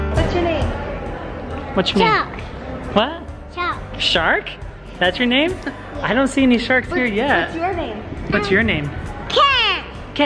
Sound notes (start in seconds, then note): 0.0 upbeat music; 5.3 giggles